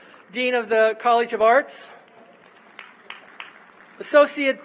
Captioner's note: applause